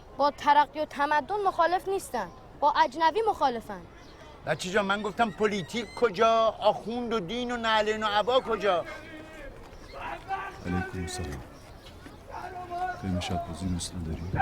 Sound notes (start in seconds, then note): 10.0 a man shouting from distance